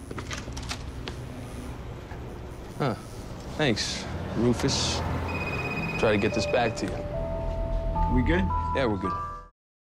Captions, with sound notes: >> Huh, thanks Rufus. [ phone rings ] >> Try go get this back to you. >> Are we good? >> Yeah, we're good.